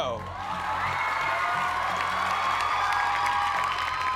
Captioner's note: cheers and applause